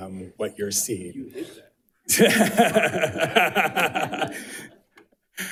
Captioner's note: laughs